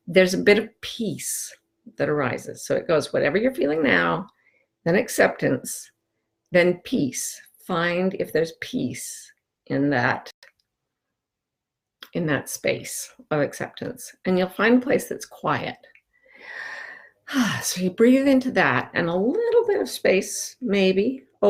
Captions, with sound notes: There's a bit of peace that arises. So it goes whatever you're feeling now, then acceptance, then peace. Find if there's peace in that, in that space of acceptance and you'll find a place that's quiet. (sighs) So you breathe into that. And a little bit of space maybe